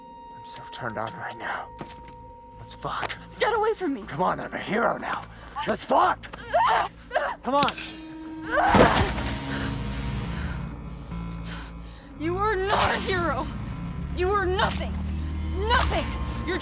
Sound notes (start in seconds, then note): 6.4 Becky grunting; 7.6 machete thuds; 8.4 dramatic music; 13.3 machete whacks